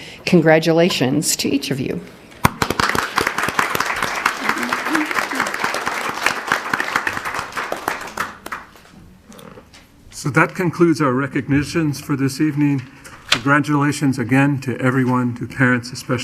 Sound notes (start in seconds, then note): 2.4 audience applauding